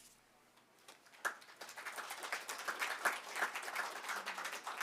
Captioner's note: audience clapping